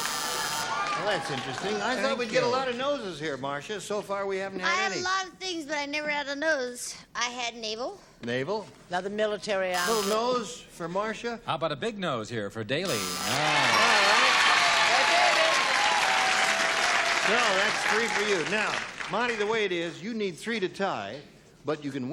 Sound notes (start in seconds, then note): 15.5 cheering